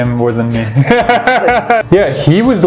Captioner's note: both laugh